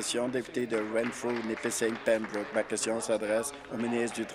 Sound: applause

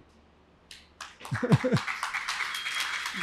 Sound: applause

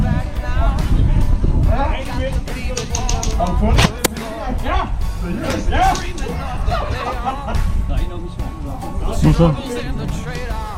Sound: instinctively chatter

